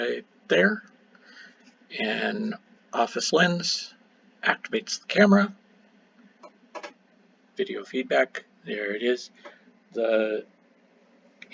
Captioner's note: video feedback